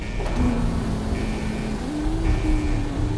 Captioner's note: hums weird tune